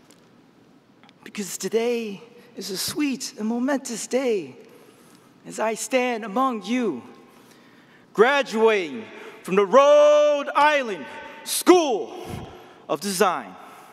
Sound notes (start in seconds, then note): none